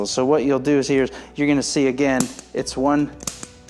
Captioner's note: activator pops